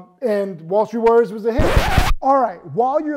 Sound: record scratches

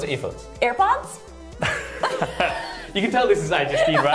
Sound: laughter

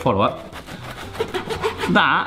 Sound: knife sawing

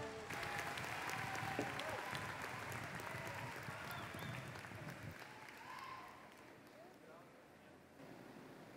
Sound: applause

